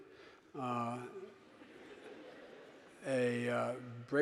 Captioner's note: audience giggling